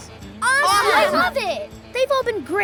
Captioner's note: all exclaiming